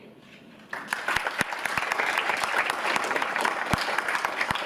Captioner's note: audience applauds